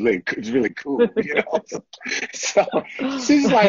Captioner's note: laughter